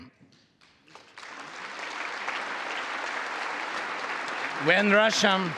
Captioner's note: congress applauding